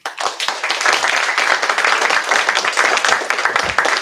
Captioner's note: applause